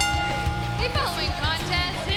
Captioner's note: bell ringing